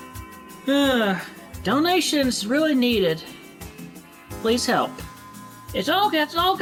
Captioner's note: sigh